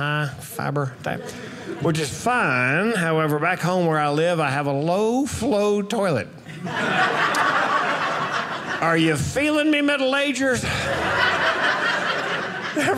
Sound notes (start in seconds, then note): 6.5 audience laughing